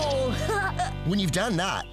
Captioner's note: laughing